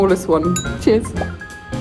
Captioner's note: glass clinks; bubbles pop